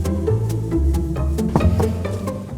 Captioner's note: knocking on door